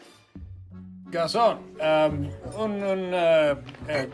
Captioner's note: speaking French poorly